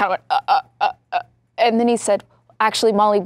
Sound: stammering

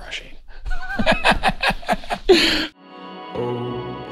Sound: laughs

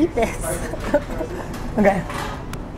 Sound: laughs

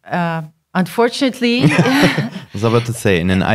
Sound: laughing

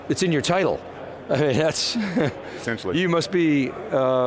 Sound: laughs

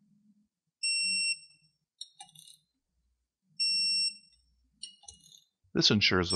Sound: beeps from Torque Wrench

